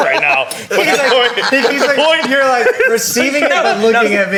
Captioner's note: all laughing